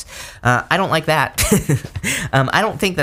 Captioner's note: chuckles